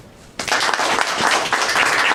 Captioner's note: applause